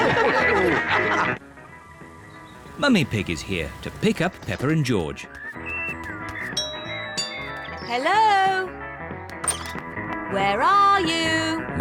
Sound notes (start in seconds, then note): 6.6 doorbell rings